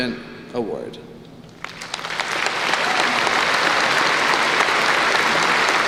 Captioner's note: applause